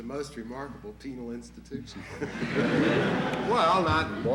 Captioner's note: laughter in courtroom